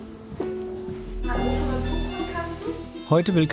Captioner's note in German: Piepen